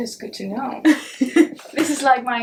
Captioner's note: chuckles